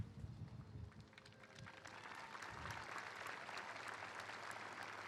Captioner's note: applause and cheering